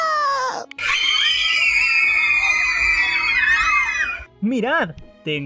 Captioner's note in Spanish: fangirl screams.mp3